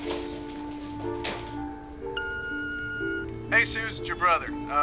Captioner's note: beep